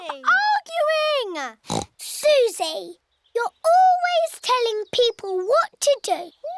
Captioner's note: oinks